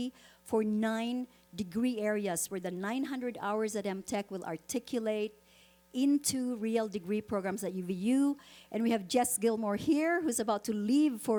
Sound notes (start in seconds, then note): none